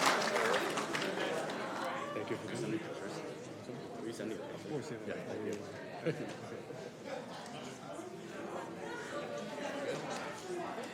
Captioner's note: applause